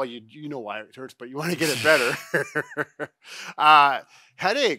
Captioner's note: laugh